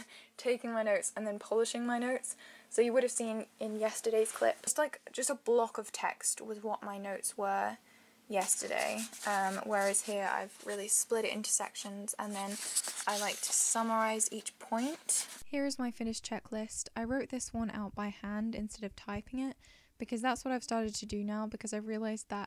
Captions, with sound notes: Taking my notes and then polishing my notes So you would have seen in yesterday's clip - just like just a block of text was what my notes were yesterday. Whereas here I've really split it into sections and then I like to summarize each point. [Voiceover]: Here is my finished checklist I wrote this one out by hand instead of typing it because that's what I've started to do now because I realized that